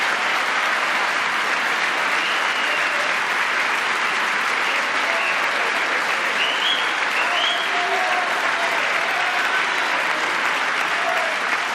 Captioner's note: applause